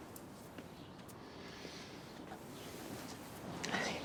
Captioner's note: Christopher breathes deeply